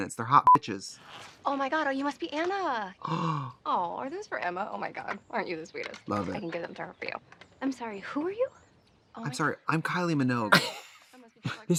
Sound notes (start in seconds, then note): 0.4 beep; 3.0 Katya gasps; 11.4 laughs